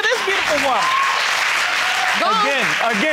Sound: audience applauding

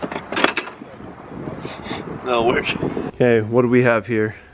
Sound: sniffs

